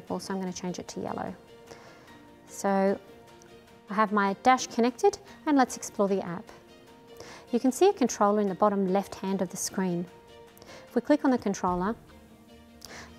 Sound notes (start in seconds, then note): none